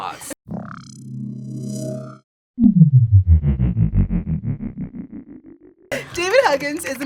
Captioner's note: ominous hum